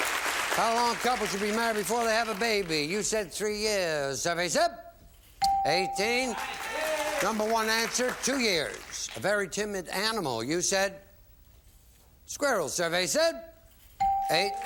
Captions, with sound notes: You're okay there, champ. How long a couple should be married before they have a baby. You said three years, survey said -- 18. (bell) (applause) Number one answer --two years. A very timid animal, you said squirrel.